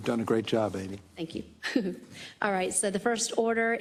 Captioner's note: laugh